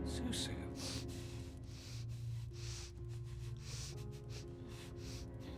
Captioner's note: Qi'an breathes heavily